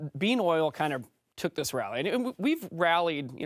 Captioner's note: French